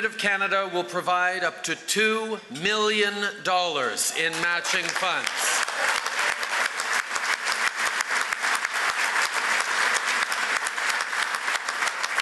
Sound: cheers & applause

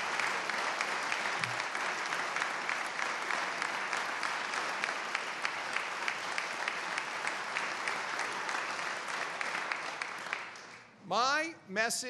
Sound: applause

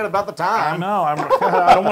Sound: laugh

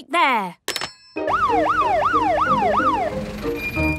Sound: siren sounding

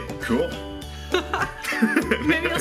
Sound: laugh

